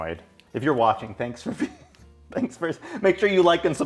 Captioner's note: laughs